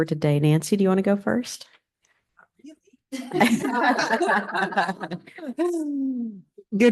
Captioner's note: laughter